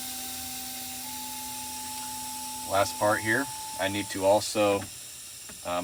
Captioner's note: air releasing